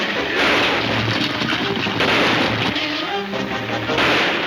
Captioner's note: gunshots banging